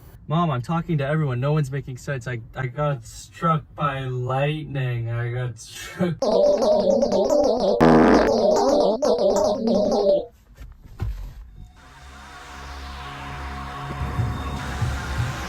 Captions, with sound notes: - Mom, I'm talking to everyone no one's making sense. So it's like I got struck by lightning. I got struck... (alien sounding language)